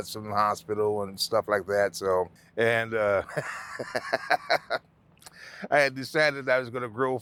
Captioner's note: laughing